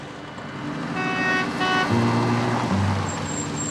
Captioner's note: honking